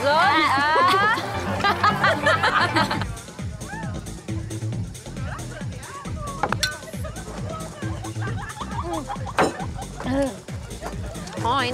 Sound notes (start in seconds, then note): 0.3 laughing; 6.5 glasses clinking